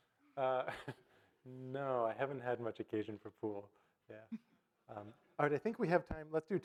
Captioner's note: chuckles